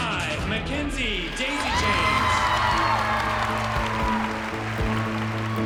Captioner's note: cheering and applause